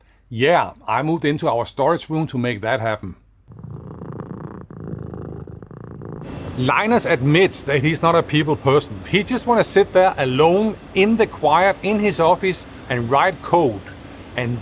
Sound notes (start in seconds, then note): 3.4 cat purring